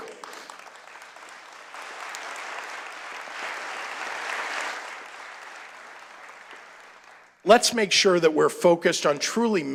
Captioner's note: applause